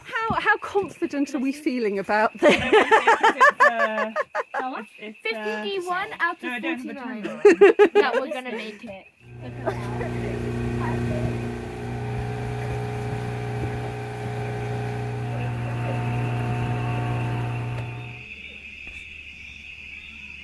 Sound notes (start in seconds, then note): 2.4 laughing; 7.2 laughing; 9.7 boat motor; 18.2 crickets chirping loudly